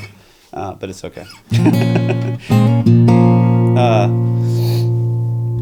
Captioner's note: laughs